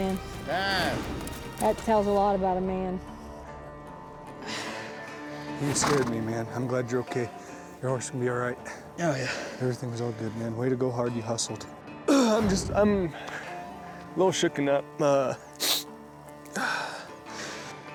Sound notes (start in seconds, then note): 5.6 coy grunting; 15.5 sniffles